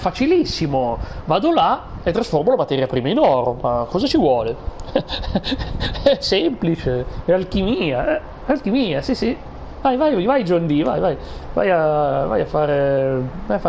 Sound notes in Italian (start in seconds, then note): 4.8 risate